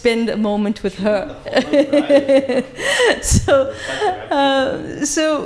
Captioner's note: laughing